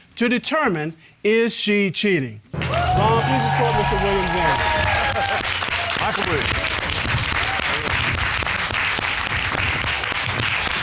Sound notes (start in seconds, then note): 5.0 audience cheering, applauding